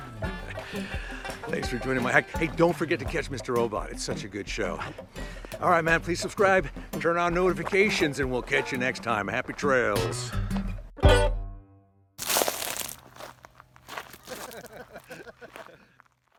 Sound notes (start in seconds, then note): 12.2 dirt sounds; 14.2 laughter